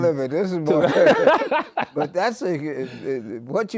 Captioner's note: laughing